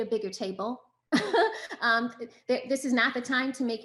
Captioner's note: chuckles